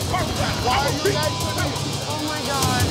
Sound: beep

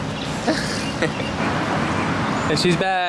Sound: chuckles

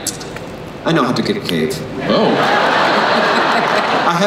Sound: everyone laughs

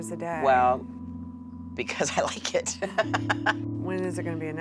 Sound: laughs

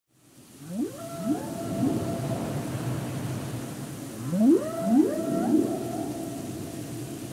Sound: whales songs and thunderstorm sound in the background

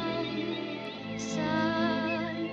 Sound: birds chirping

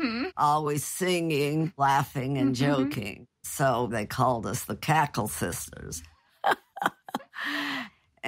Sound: laughs

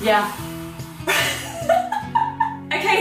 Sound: laughing

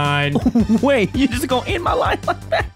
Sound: robot voice; chuckles

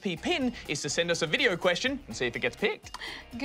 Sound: none

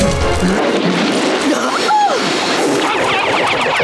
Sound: gasping

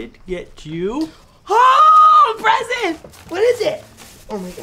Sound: yells

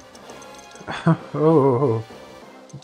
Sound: laughs

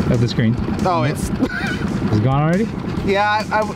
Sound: chuckles

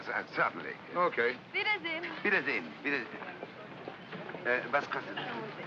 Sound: bidding farewell in German; speaking in German

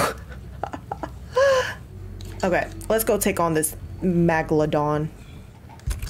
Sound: laugh

